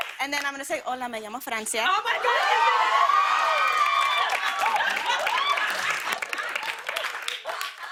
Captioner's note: cheers and applause